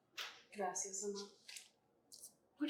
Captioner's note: Spanish